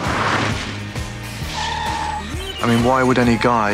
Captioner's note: tires screech